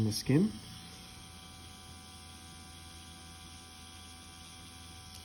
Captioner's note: machine whirring